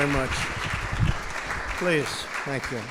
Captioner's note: applause